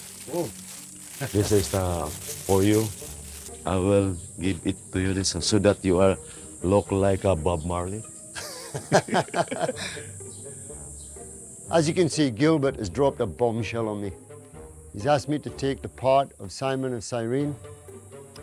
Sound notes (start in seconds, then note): 8.3 laughter